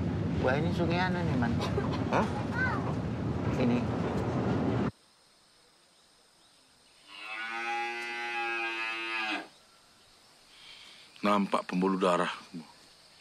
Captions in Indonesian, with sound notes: - Wah ini Sungai anu, nih, Man. - Hah? Ini. [lenguh sapi] Nampak pembuluh darahku.